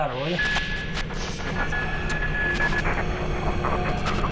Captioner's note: buzzing